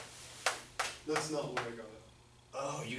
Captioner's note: voiceover